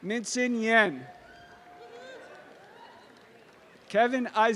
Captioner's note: audience applause